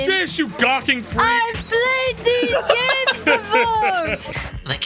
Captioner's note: laugh